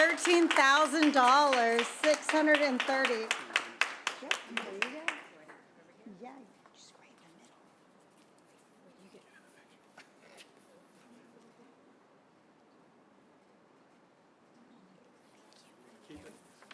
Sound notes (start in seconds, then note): 5.3 silence